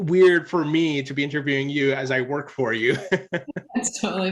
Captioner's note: laughs